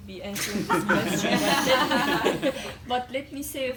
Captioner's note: laughter